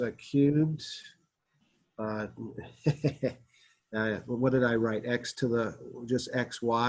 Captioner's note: laughter